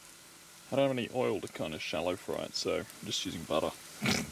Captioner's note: snort